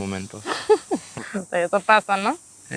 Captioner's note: risas